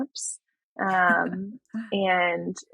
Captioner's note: <Laugh>